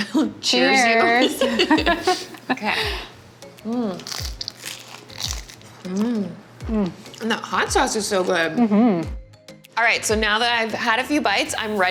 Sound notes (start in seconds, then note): 1.1 laughing; 3.9 crunching food